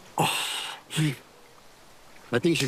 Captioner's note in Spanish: Quejidos